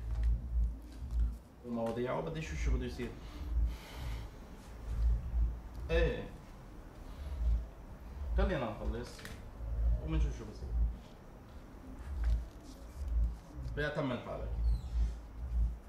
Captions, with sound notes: [man continues in Arabic] Let's see what happens. Let's finish, by all means, and finalize. Let's settle it.